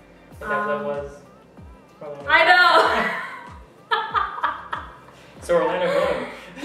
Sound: laugh

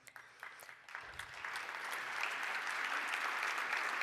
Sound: applause

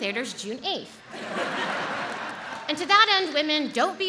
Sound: audience laughs

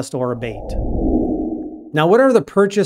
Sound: air whooshing

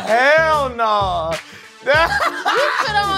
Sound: laughing

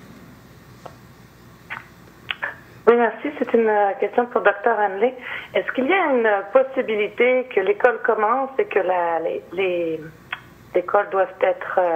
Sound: speaking French

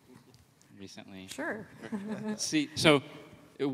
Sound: laughs

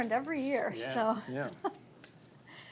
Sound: laughs

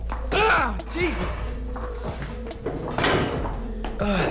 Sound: groans

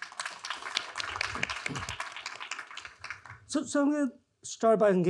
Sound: attendees applauding

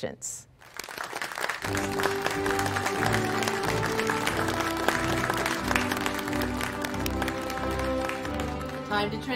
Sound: applause

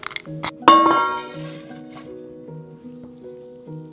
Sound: clanks

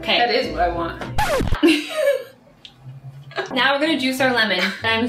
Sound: record needle scratching

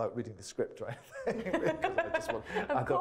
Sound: laughs

